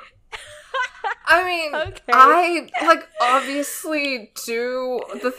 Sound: laughs

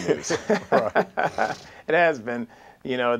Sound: laughter

